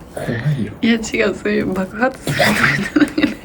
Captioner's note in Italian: risate